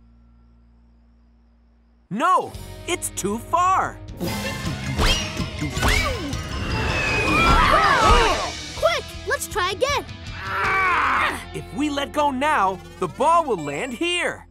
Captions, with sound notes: No, it's too far. [robot noises] Whoa! Quick, let's try again. [groaning] If let go now, the ball will land here.